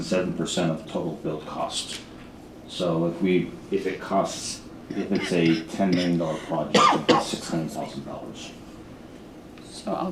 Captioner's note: clears throat